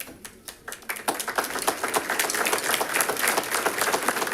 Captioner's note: audience applauding